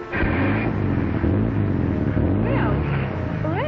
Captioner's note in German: Motor dreht auf